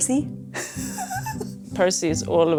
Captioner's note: laughing